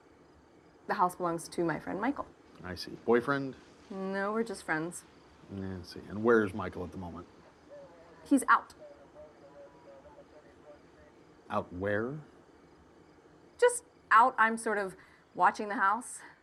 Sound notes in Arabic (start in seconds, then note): 9.0 ثرثرة من جهاز لاسلكي الشرطة